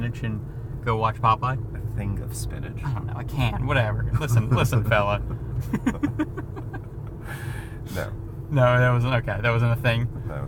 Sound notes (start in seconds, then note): 5.5 both laughing